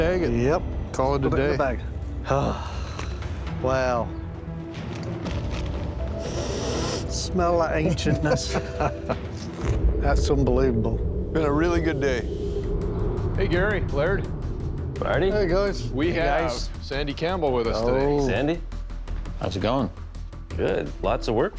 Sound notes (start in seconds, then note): 2.2 sighs; 6.2 inhales deeply; 7.7 laughs